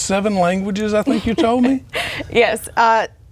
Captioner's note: laughing